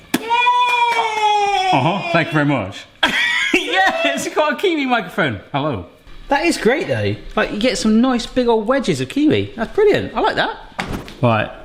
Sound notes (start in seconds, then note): 0.6 claps; 3.0 laughs